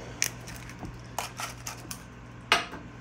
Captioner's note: crunching